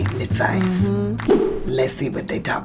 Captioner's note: mumbles in agreement